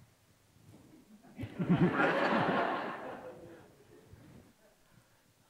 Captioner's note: audience laughs